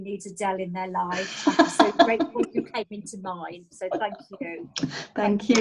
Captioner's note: laughing